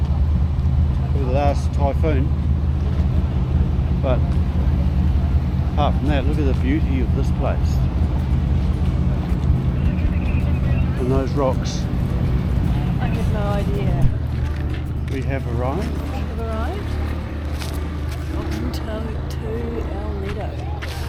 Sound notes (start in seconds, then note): 9.5 radio announcements